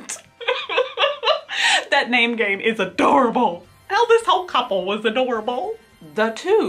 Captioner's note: laughs